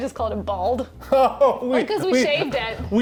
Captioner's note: laughs